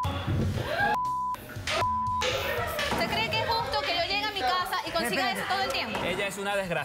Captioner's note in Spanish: Gritos y exclamaciones